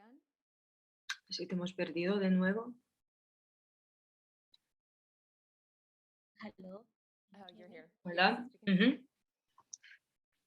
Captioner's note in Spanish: audio eliminado